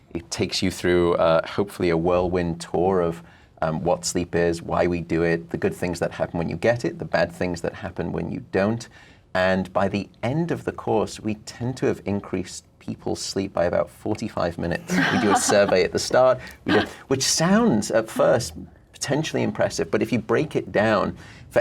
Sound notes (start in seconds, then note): 14.8 everyone laughs